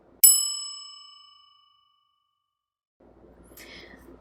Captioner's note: bell dinging